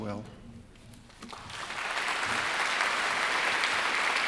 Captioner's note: applauding